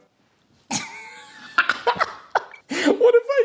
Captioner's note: laughs